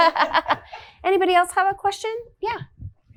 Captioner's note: women laughing